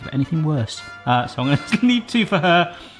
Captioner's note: laughs